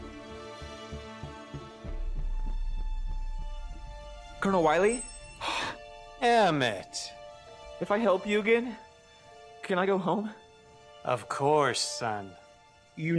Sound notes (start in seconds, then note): 0.1 suspenseful instrumental music; 5.4 Ferris gasps